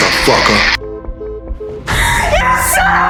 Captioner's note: phone beeping; gasps